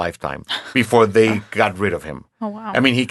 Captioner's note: laughs